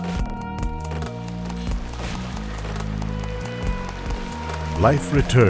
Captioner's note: water splashing